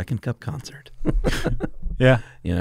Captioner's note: laughter